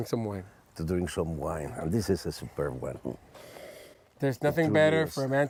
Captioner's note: sniff